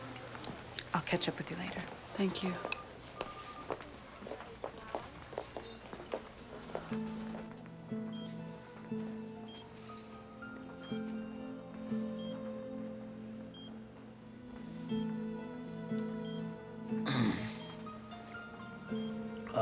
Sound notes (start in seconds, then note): 7.2 machine beeping; 7.2 slow paced music; 17.0 Mark clears throat